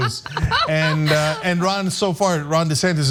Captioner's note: laugh